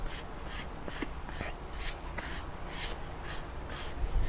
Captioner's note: brush swishes